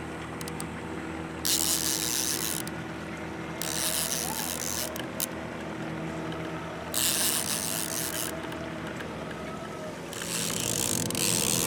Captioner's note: reel cranking